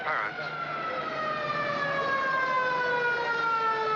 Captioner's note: siren Blaring